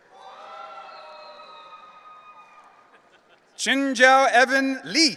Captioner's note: audience cheering